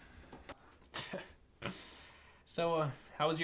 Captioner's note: chuckles